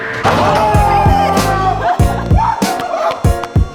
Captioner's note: cheering